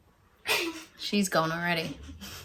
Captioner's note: giggles